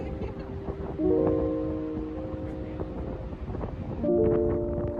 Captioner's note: ocean winds blowing